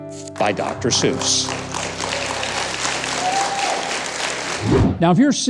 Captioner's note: audience applause